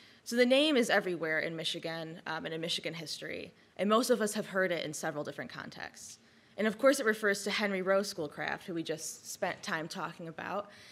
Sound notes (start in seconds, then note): none